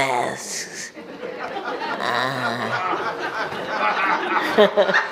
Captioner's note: audience laughs